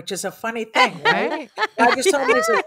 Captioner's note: laughs